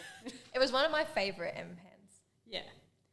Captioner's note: both laugh